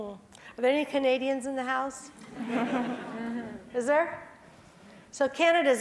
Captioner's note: laugh